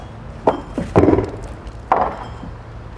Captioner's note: clattering